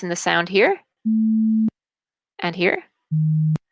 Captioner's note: beep; deep beep